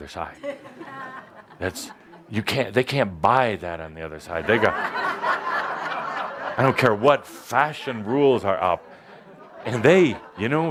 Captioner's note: laughter